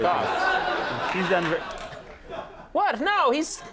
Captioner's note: audience laughs